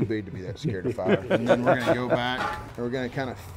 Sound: laughs

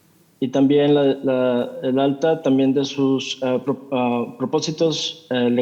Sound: translator speaking in Spanish

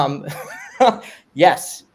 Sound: laughing

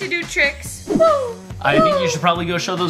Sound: air whooshing

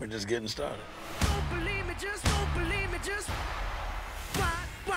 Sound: crowd cheering

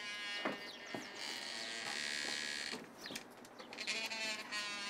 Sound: door creaking

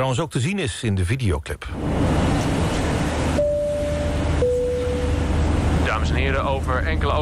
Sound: airplane sounds

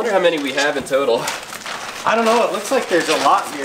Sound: bags crunching

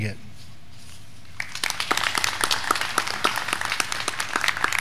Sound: graduands clapping

